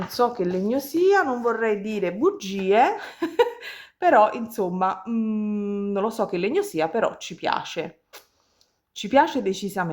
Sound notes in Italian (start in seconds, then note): 3.0 risate